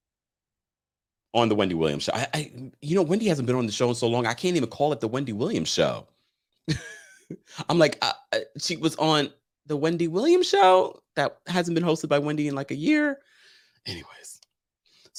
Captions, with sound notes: on The Wendy Williams Show. I, you know, Wendy, hasn't been on the show in so long, I can't even call it The Wendy Williams Show. (laughs) I'm like (stutters) she was on the Wendy Williams show? That hasn't been hosted by Wendy in like a year? Anyways.